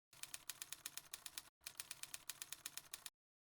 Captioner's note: typing sound